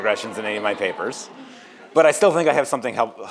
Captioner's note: audience laughs